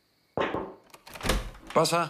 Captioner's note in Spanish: Toques en la puerta